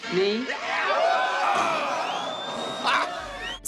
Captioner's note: prisoners hoot and cheer